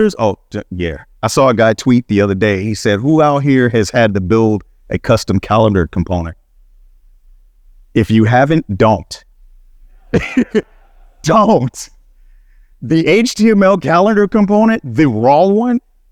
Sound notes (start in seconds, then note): 9.9 laughing